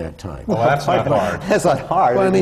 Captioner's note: laughter